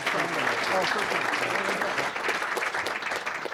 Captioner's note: applause